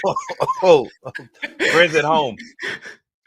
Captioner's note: chuckling; laughs